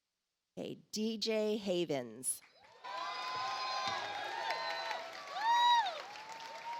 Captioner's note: audience applauds